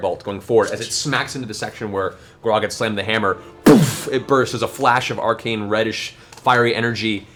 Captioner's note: boof